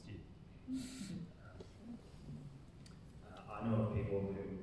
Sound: laughing

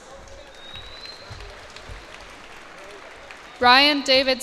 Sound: cheers and applause

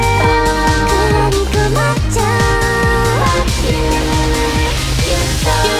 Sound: poof! Woosh!

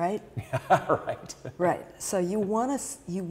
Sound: laughing

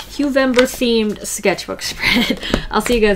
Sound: laughs

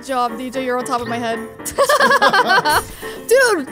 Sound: both laughing

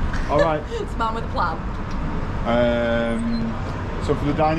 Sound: giggles

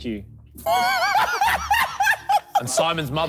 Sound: laughing

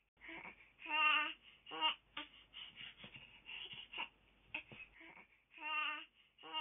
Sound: baby Crying

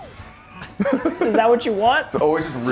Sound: laugh

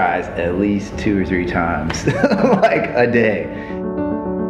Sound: laughter

